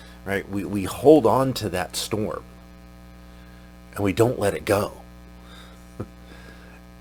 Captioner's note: chuckles